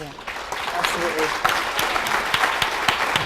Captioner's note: applause